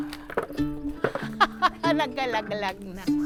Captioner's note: laughs